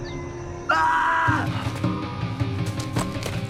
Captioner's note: screams